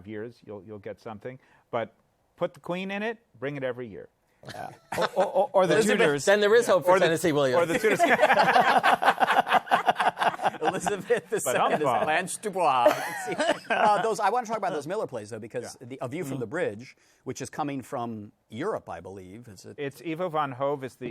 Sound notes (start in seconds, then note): 7.7 laughter